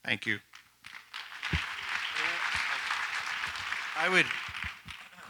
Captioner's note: audience applauds